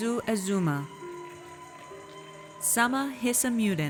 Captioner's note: audience cheers